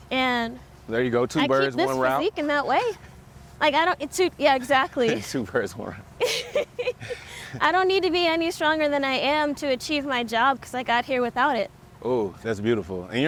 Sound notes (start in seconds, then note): 6.2 both laugh